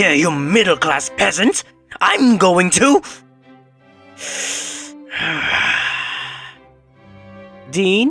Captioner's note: deep calming breath